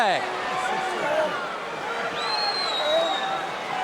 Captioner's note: audience cheering